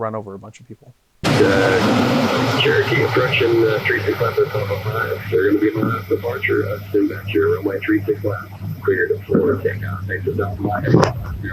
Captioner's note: radio